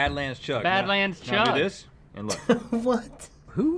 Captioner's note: laughing